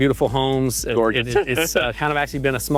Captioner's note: laughs